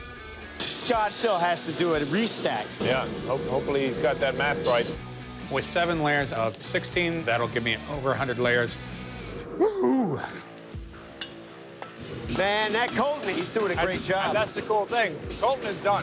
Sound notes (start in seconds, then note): 9.6 exclaims